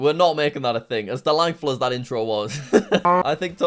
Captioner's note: laughs